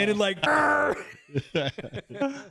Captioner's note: growls